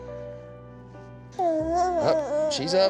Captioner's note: jabbering